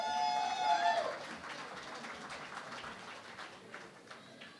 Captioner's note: cheering and Applause